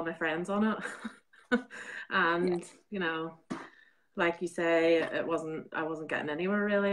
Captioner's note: laughing